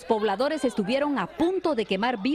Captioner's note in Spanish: gritan